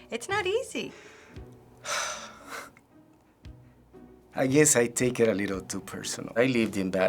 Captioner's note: sighs, chuckles